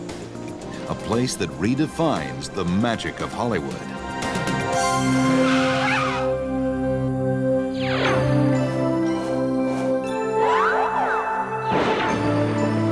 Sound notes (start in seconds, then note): 4.5 upbeat music; 4.7 tires screeching; 7.8 magic zapping